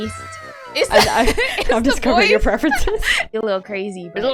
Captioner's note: laughs